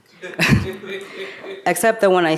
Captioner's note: audience member laughing